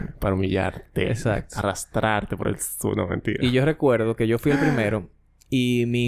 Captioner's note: laughs